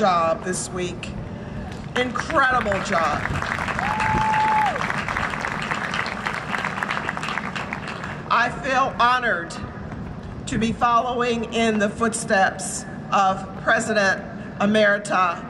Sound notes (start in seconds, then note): 3.0 cheering and Applause